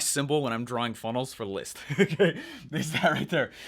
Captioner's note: chuckles